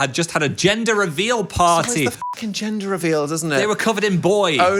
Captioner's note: beep